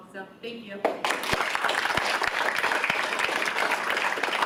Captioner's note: audience applauds